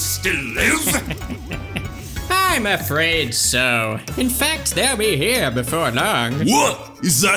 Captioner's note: chuckles